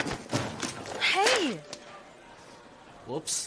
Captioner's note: books thud